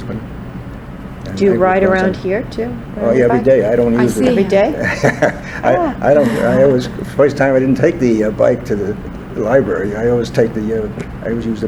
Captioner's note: laughs